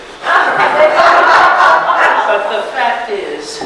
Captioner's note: audience laughs